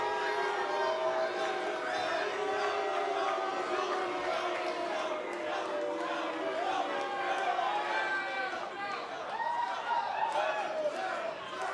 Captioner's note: cheers & boos